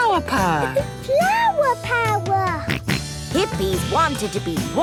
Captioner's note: George snorts